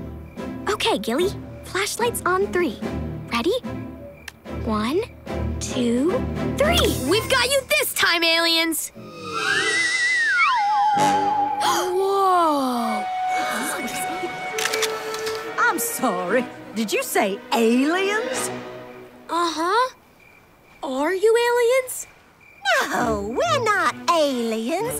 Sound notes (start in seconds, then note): 10.6 gasping; 12.8 gasping